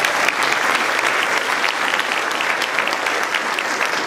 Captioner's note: applause